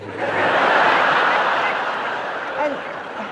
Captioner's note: audience laughing